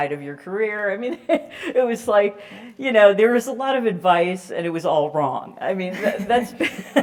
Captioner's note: laugh